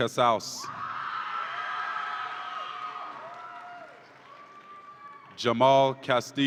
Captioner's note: audience applauds and cheers